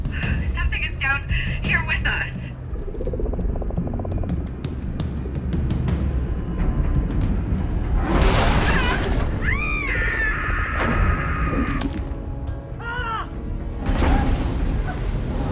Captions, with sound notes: Something is down here with us. [screaming]